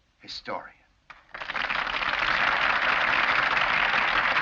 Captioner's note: crowd applauds